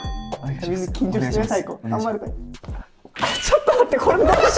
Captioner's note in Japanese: 小声